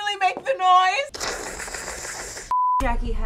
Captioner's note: scary sipping sounds; beep